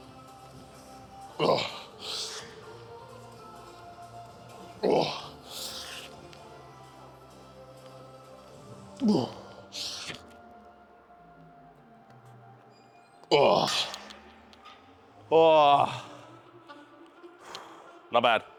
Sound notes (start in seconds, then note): 13.3 grunting